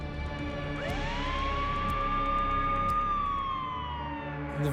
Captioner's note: emergency siren